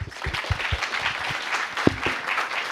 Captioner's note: applause